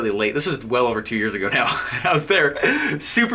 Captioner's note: laughing